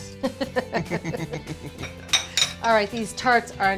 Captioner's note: both laughing